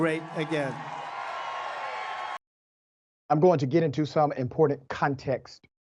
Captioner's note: applause